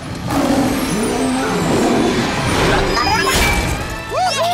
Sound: roaring

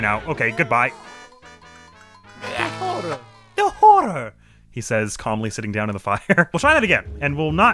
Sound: as Mario

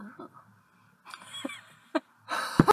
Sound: laughter

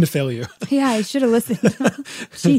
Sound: both laughing

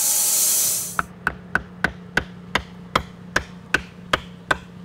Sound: hammer banging

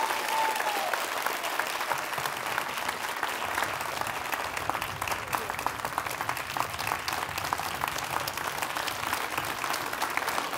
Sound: applause

